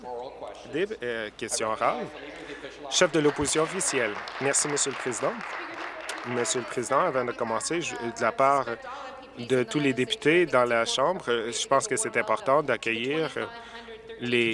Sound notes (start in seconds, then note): 6.2 applause